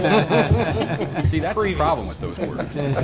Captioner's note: laughter